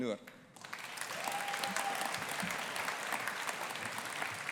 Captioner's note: audience applauding